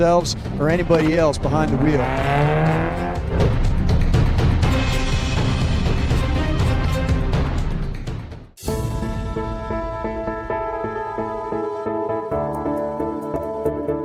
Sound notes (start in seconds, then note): 2.9 vehicle engine roaring; 8.4 hopeful music